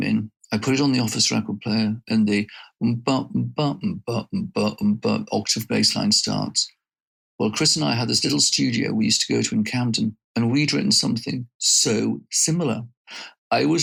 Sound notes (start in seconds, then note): 2.4 beatboxing